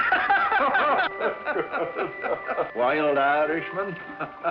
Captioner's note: both laugh